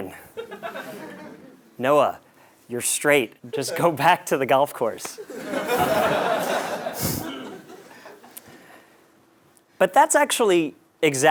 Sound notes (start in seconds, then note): 0.3 laugh; 5.2 laugh